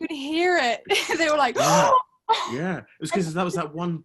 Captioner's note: gasping